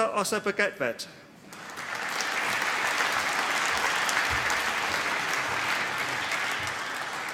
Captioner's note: applause